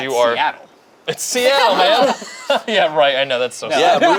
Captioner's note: group laughs